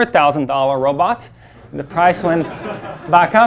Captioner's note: audience laughing